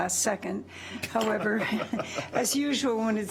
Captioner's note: laughs